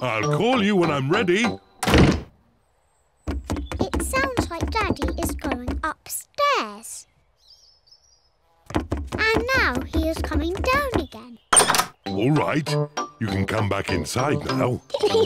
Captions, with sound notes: I'll call you when I'm ready. (POUNDING TROTTERS) It sounds like Daddy is going upstairs. (POUNDING TROTTERS) And now he is coming down again. All right. You can come back inside now.